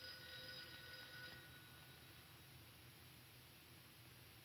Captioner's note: phone ringing